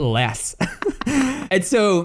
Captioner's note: both laugh